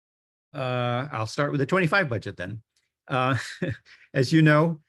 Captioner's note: laughs